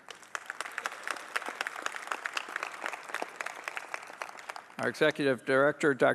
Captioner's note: applause